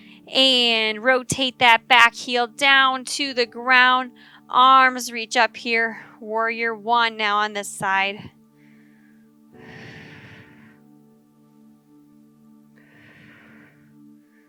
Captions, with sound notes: and rotate that back heel down to the ground. Arms reach up here, warrior one, now, on the side. (exhaling) (gentle music)